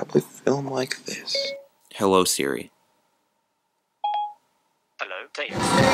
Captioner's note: iPhone ding